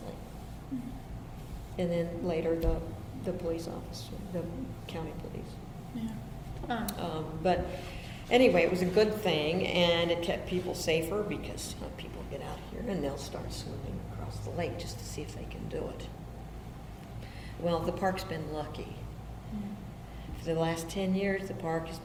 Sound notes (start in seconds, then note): none